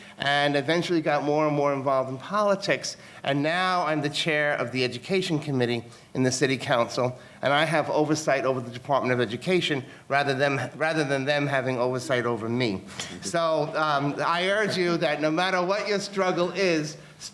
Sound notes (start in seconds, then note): 13.2 audience laughing